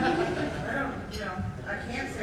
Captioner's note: audience laughing